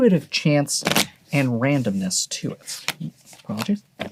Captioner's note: cards shuffling